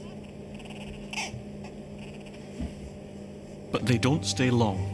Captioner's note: chick squeaks